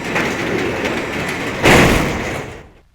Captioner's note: doors power shut